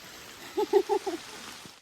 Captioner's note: laughs